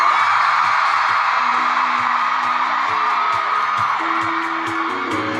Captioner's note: loud crowd cheering